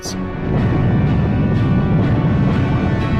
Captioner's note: explosions boom